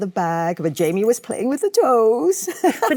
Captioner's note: Michelle laughs